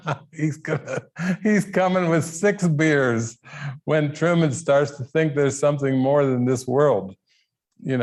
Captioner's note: laughing